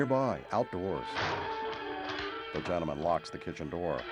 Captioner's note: lock clicks